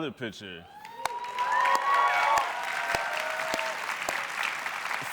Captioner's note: cheers, applause